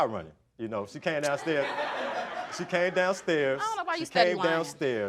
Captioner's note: audience laughing